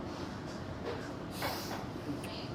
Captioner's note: none